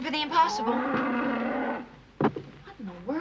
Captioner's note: cow MOOING